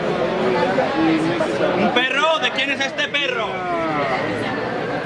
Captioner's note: people chatting in the background